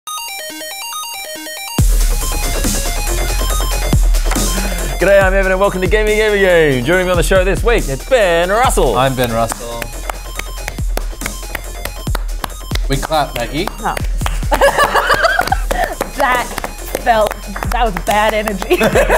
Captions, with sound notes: (monophonic video game music) - G'day, I'm Evan and welcome to "Gamey Gamey Game". Joining me on the show this week. It's Ben Russell. - I'm Ben Russell. (claps) We clap, Maggie. - Oh. (Laughter) - That felt -- That was bad energy.